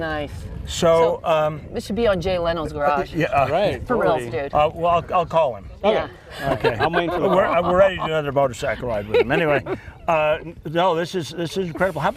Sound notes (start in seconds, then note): 6.3 laughter